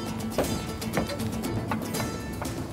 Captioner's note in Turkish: Kapı açılma sesleri